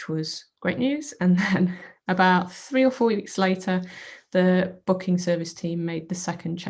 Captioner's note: chuckles